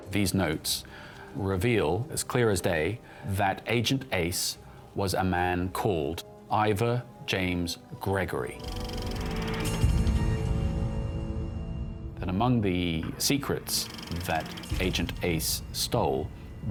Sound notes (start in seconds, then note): 8.2 tense suspenseful music; 9.5 photos whirring